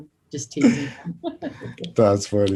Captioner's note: Joy laughs